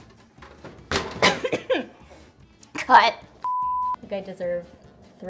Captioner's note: coughs